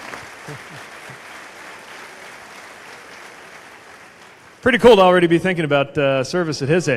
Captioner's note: applause